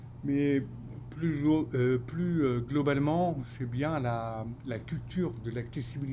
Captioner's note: speaking French